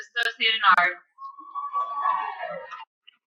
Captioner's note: cheering